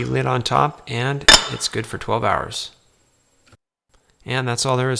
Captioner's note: lid clicks